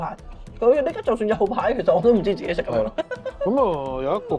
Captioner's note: haha